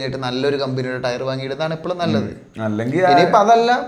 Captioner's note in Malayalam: തൊണ്ട ശരിയാക്കുന്നു